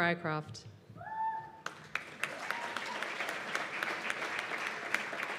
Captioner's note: cheers and applause